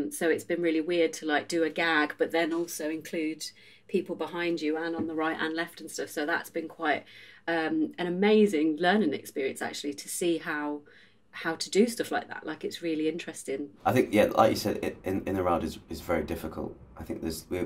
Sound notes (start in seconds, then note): none